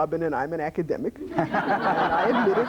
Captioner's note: laughter